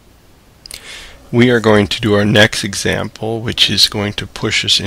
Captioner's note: voiceover